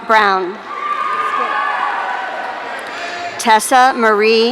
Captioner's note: audience cheering